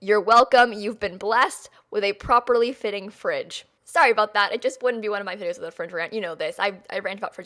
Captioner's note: French